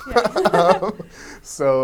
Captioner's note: both laughing